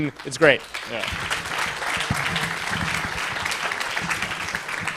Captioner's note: applause